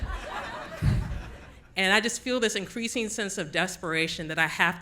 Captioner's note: audience Laughing